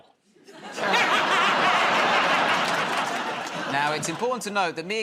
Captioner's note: laughter